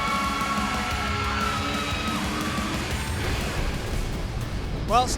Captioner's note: cheers & applause